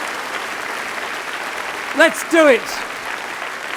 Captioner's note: applause